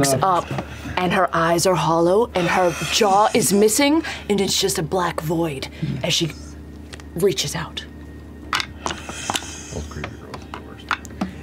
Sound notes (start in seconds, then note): 7.3 oddly, again, a crack is audible